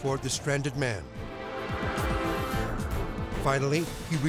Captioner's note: tense music; wind whooshing